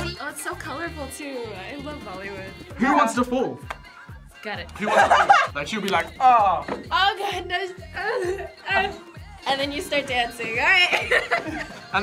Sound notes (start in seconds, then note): 4.8 laughs; 8.3 moans; 10.7 laughs